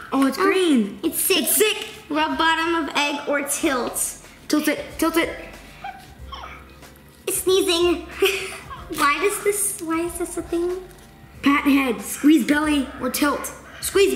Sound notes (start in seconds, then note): 6.3 Hatchimal sneezes